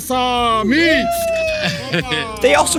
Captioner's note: speaking in a foreign language; person cheering; bottle hissing